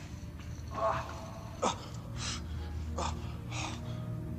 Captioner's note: man grunting